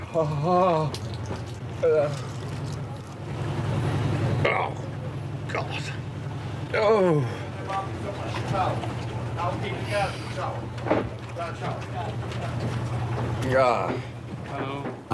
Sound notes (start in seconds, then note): 1.8 groans; 6.7 Stephen groans